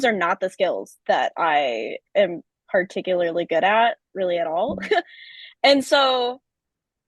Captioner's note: chuckles